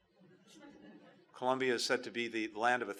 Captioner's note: laughter